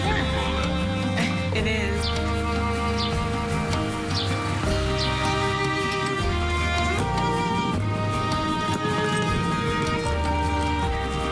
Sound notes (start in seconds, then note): 5.6 birds chirping; 11.0 suitcase wheels rolling